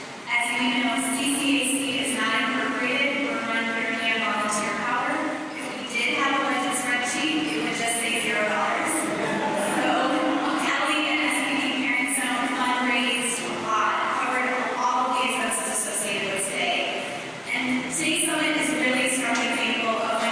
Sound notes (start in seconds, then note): 14.2 laughter